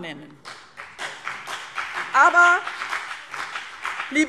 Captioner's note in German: Beifall BÜNDNIS 90/DIE GRÜNEN